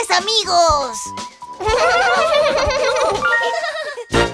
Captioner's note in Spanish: Risas